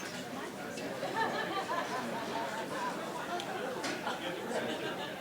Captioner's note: audience chattering